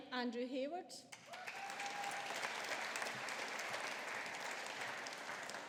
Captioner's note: audience applauding